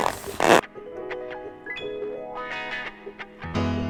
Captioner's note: zipper scrapes